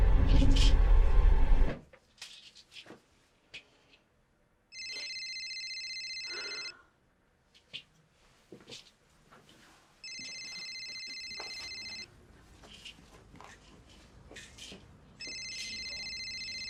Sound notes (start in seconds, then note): 4.7 cellphone ringing